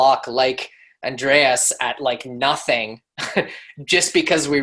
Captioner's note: laughs